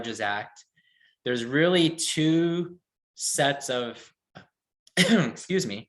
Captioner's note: coughs